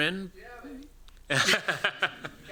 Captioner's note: laughs